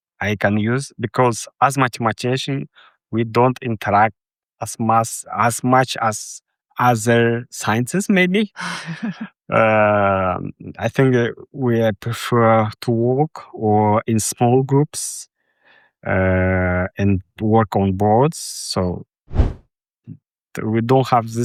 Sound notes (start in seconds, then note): 8.6 chuckles